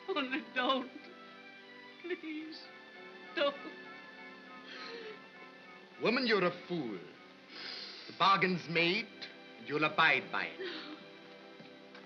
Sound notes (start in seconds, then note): 4.7 sobbing